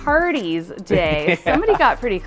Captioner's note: laughing